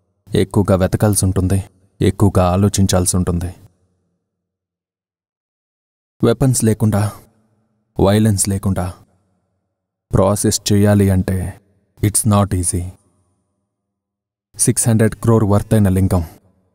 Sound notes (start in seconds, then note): none